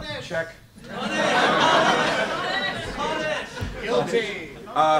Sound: crowd mumbling

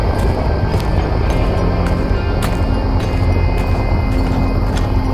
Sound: wind rushing; footsteps

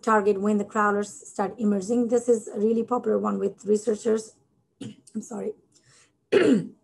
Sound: coughs

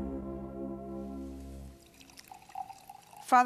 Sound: wine pouring

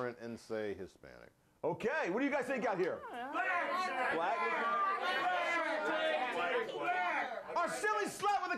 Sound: audience shouts answers

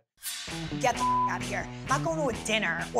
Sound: beep

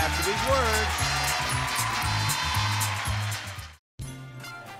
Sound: audience cheering; upbeat music

